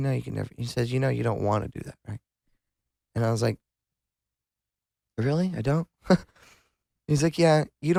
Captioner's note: laughs